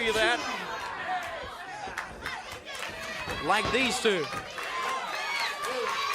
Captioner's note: crowd chatter